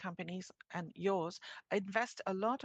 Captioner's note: speaking in French